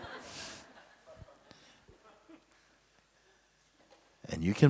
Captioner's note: laughter